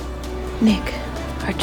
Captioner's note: voiceover